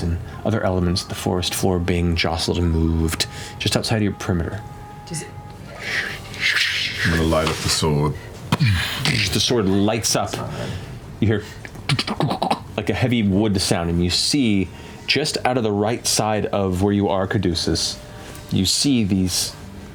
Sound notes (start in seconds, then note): 6.1 rustling; 11.9 skittering